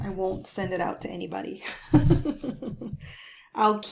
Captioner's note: chuckles